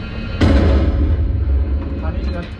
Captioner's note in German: Schuss fällt